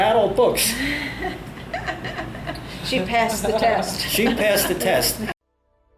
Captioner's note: both laugh